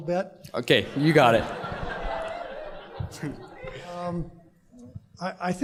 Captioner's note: laughter